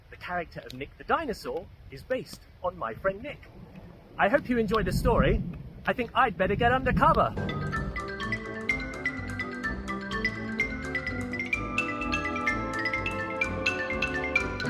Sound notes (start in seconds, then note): 3.0 thunder rumbles; 14.0 xylophone music plays